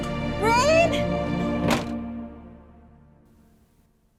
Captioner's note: door slams